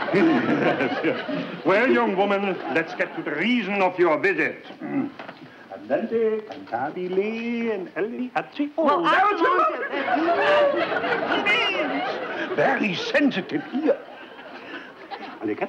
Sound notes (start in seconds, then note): 0.0 laughter; 5.3 professor shouts